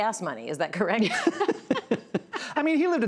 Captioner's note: laughs